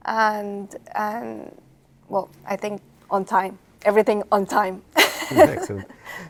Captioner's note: laughs